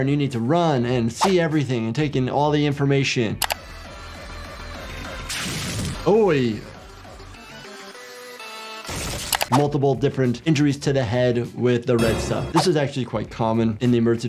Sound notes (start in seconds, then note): 2.9 upbeat music; 3.4 mouse clicking; 4.7 blood squelching; 8.3 blood squelching; 11.9 dramatic music